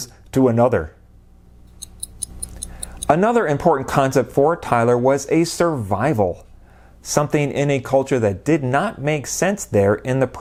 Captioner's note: clock ticking